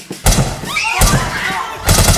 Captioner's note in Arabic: طلقات نارية